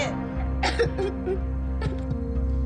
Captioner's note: sobbing